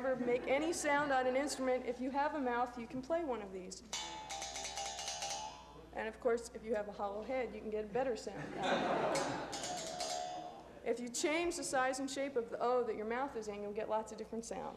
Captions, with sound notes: make any sounds on an instrument, if you have a mouth you can play one of these. [mouthbow playing] and of course if you a hollow head you can get a better sound out of one. [laughter] [mouthbow playing] If you change the size and shape of the “O” your mouth is in you will get lots of different sounds.